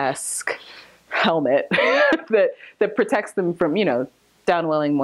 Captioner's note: laughs